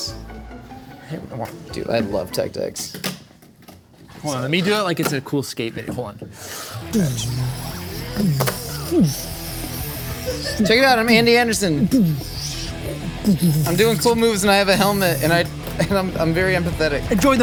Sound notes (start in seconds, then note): 0.0 whimsical music; 3.0 toy skateboard slamming; 7.0 rock music; 7.0 vocalizing; 12.3 vocalizing